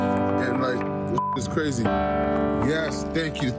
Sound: beep

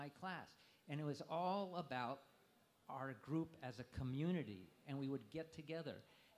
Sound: none

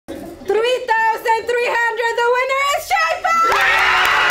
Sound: loud cheers

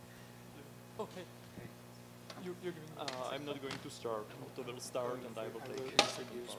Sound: indistinct chatter

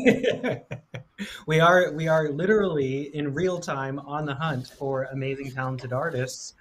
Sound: laughs

